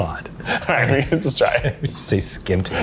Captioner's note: laugh